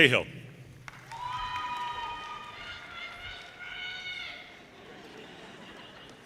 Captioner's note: audience cheers and applause